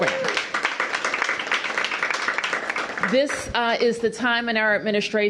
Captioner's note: applause